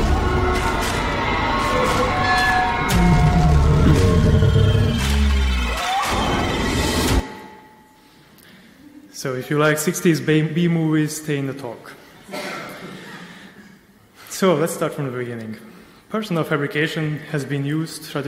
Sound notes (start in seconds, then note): 0.1 mechanical creaking; 6.0 screams